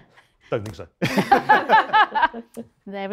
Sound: laughter

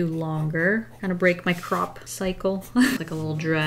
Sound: laughs

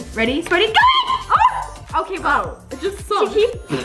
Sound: screams

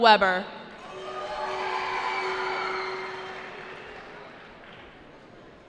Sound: cheering

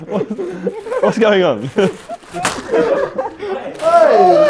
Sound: laughs

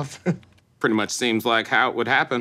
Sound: Riyaz chuckling

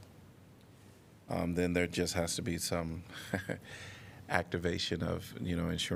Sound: laughter

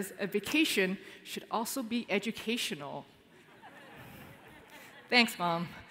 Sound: laughter

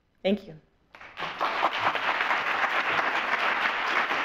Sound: audience applauds

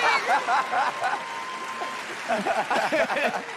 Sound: cheering

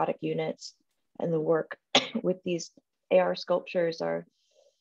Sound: coughing

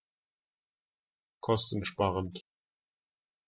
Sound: fast Pronunciation

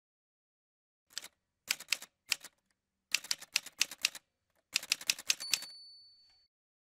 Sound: typewriter sounds

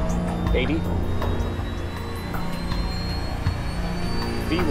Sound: plane engine revs

